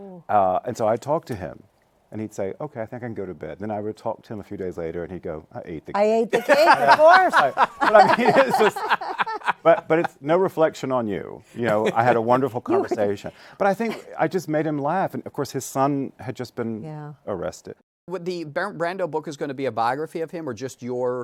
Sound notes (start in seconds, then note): 6.3 laughs